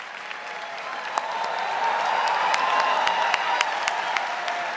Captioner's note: audience cheering